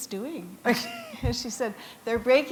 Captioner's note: chuckle